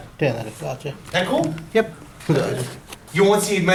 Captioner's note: voiceover